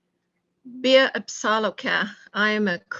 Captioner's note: speaking in a native language